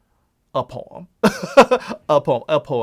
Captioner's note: laughs